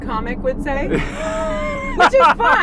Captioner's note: laughs